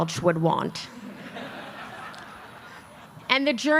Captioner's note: laughter